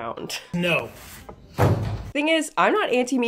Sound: vegetables thudding

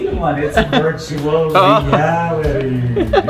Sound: in spooky voice

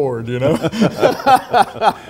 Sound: laughs

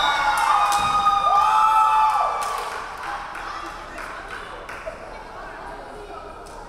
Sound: referee whistling; crowd cheering

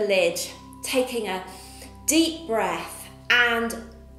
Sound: inhales

